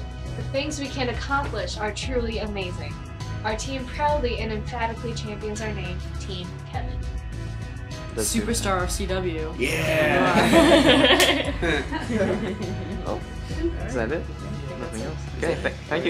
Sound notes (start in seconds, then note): 9.9 all laugh